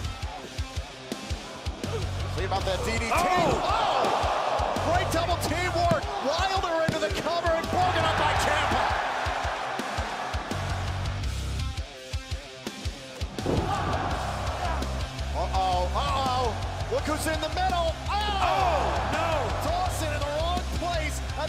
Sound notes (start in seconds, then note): 8.1 crowd cheering